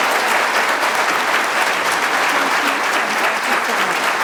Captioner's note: applause